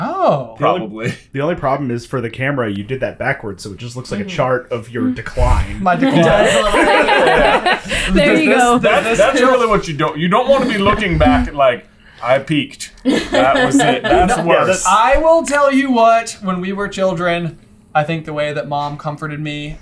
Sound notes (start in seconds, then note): 6.0 laughter